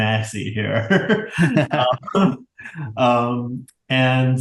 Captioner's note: both laugh